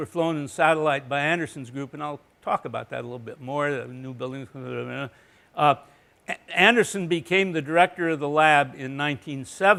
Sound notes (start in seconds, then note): 3.6 mumbling